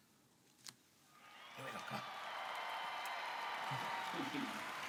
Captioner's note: audience applauds